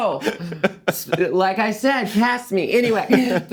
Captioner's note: laughing